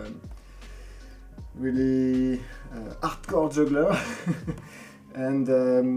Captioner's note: laughs